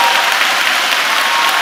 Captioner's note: applause